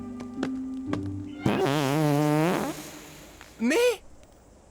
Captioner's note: farting